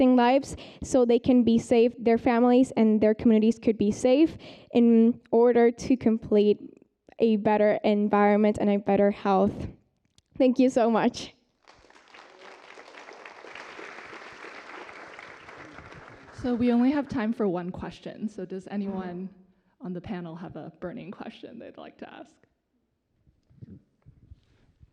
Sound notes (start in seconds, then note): 11.6 applause